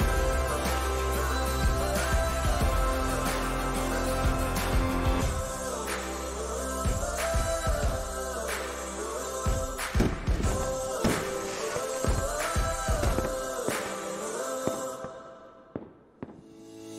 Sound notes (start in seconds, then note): 9.7 fireworks banging